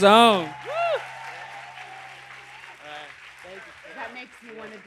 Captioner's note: applause and cheers continues